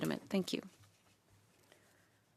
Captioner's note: speaking French